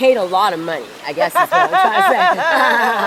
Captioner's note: laughs